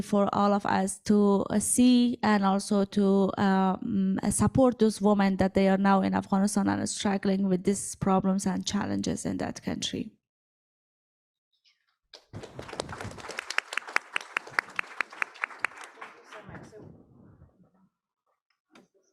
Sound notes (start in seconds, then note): 12.2 audience applauds